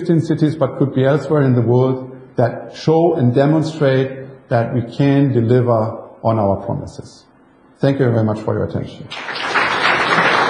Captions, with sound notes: fifteen cities but it could be elsewhere in the world, that show and demonstrate that we can deliver on our promises. Thank you very much for your attention. (applause).